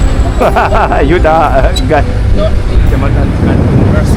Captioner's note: laugh